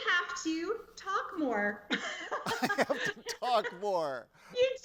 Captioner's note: laughs